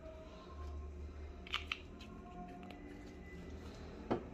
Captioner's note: closing ink bottle cap